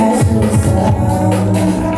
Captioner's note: haha